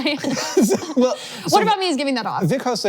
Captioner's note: laughs